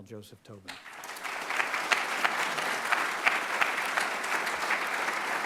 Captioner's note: audience applauding